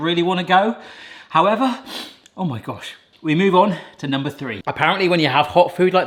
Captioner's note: sniffs